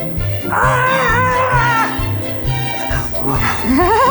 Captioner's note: screams